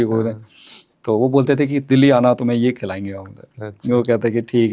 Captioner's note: nasal voice